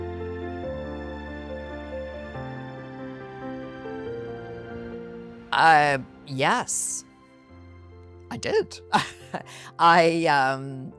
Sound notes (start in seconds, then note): 8.9 laughs